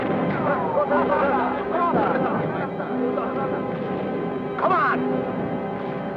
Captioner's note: Japanese soldiers chattering